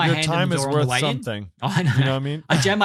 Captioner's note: chuckles